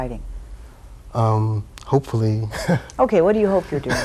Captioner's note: laughs